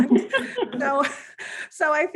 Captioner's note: all giggling